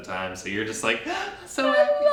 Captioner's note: gasping